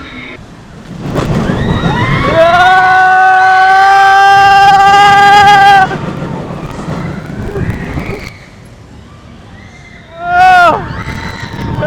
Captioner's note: screams and laughter